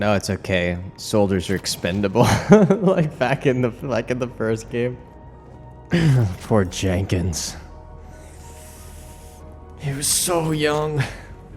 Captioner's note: laughs